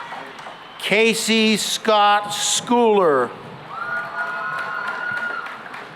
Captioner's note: cheering and applause